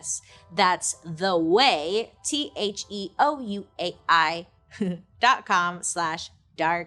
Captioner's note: chuckles